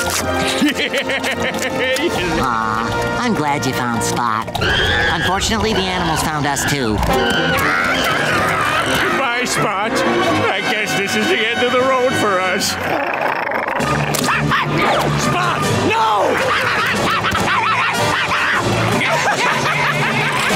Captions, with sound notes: [laughing] Aww, I'm glad you found Spot. Unfortunately, the animals found us too. Goodbye Spot, I guess this is the end of the road for us. [growling] [barking] Spot, no! [barking] [laughing]